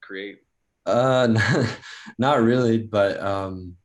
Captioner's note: laughs